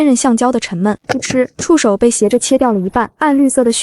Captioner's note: thud